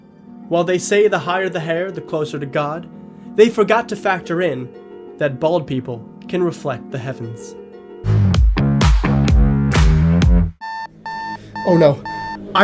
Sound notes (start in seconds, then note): 7.2 sexy music; 11.0 alarm Beeping